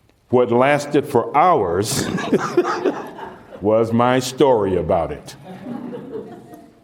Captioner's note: laughter